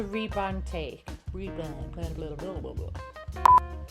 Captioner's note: blowing a raspberry